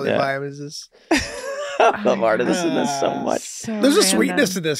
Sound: laughs

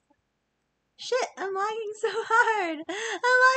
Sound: laughs

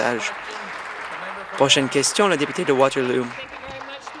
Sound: applause

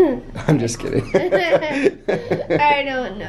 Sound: laughs

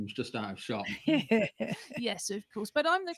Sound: laughter

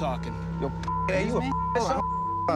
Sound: beeping

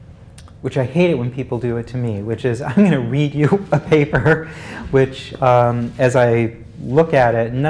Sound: laugh

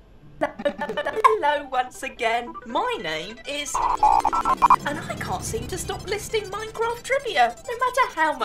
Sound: old modem sound

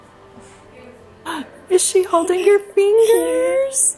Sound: gasps; giggles

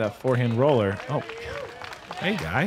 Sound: applause

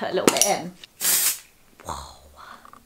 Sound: spraying

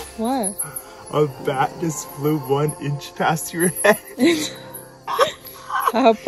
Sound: laughs

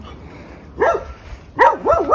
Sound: dog barking

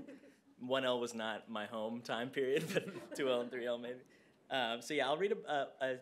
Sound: laughter

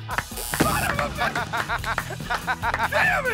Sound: both cheer, laugh; buzzer

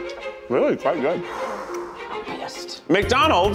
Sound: exhales

